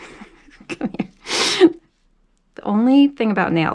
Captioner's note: laughs